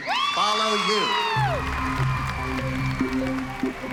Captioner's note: whooping, applause and cheering